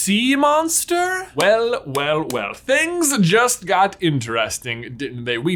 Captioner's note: clapping